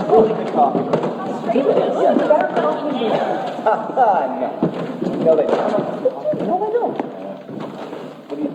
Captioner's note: crowd discussing immigration